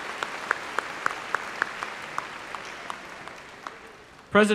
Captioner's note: applause